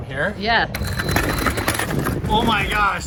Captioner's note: RC car clattering